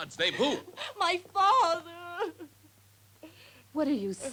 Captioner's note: sobs